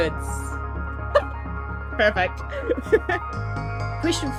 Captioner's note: chuckles; laughs